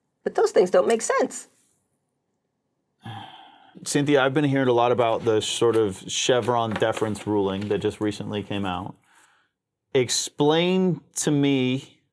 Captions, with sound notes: But those things don't make sense. (disheartened sigh) - Cynthia, I've been hearing a lot about the sort of Chevron deference ruling that just recently came out. Explain to me